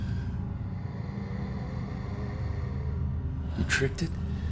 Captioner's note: low growling